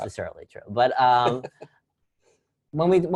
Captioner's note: laugh